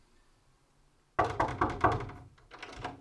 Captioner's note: knocking